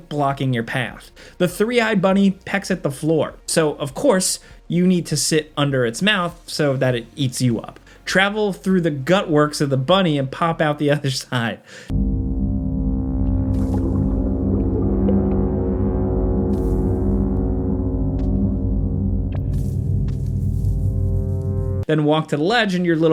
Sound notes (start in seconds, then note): 12.3 tense mysterious music; 12.9 liquid bubbles